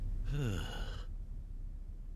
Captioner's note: sigh